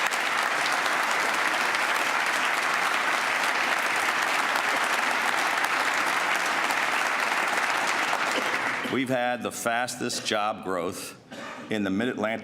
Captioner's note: applause